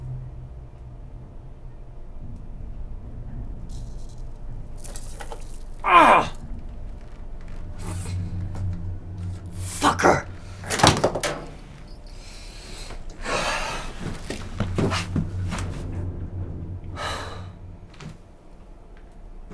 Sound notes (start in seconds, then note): 16.9 Colin sighs